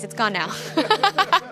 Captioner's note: and crew members laugh